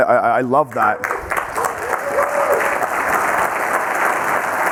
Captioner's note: audience clapping